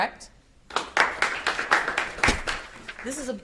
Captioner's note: audience applauds